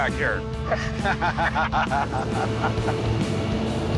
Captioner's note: laughter